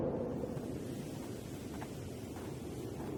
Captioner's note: wind whistling continues; bushes rustling